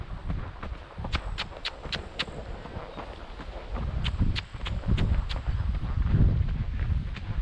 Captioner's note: clicks tongue